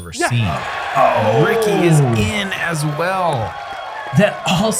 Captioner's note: applause